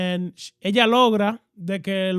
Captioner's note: speaking In Foreign Language